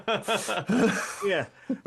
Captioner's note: laughing